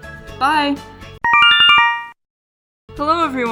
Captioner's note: Yume Nikki instructions sound